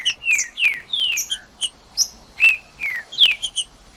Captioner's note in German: trinca ferro cantando